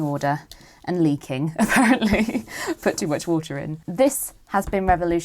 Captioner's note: laughs